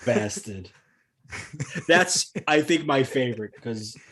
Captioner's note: laughter